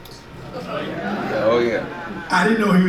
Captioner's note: audience murmurs